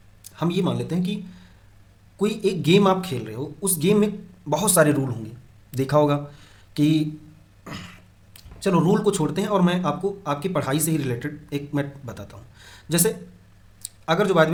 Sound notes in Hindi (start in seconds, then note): 7.6 गला साफ़ करने की आवाज़